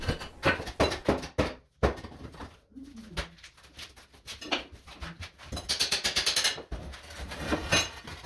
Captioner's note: hammering